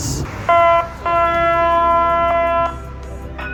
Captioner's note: train blows horn